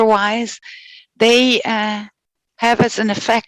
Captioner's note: non-english speech